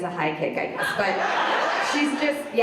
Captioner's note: audience laughs